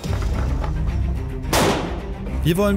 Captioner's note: urgent music; cracking